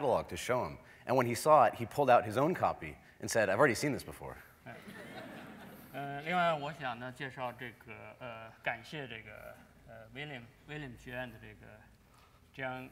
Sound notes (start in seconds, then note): 4.6 laughter; 7.7 speaking in Chinese